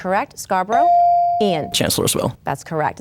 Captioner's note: bell dings